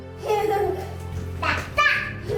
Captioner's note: laughs